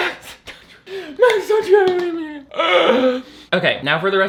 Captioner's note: cries; cries